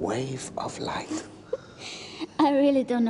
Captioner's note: <i> laughs</i>